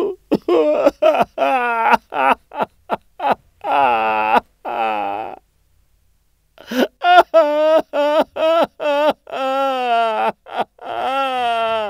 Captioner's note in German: Weinen